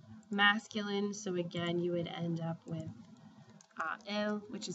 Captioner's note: spanish; speaking spanish